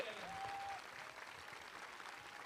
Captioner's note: applause